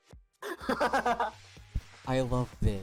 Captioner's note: cackles